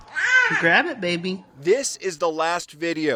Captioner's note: baby cooing